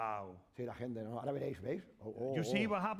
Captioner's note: speaking spanish